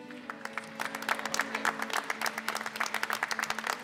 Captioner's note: applause